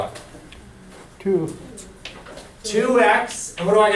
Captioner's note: voiceover